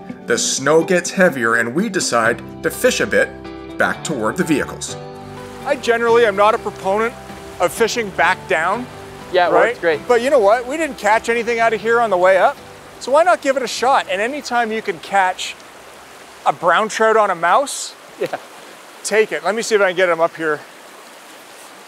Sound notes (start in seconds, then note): 18.4 laughs